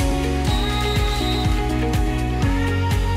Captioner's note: whistle blows